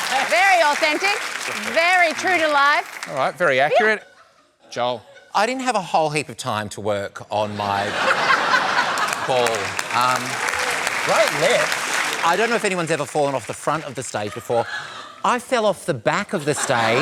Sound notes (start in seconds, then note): 7.6 laughter